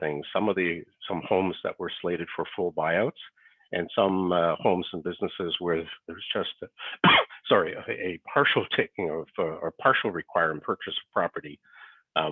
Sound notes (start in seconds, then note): 6.9 coughs